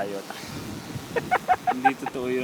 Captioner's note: laughs